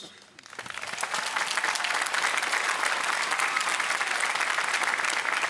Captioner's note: applause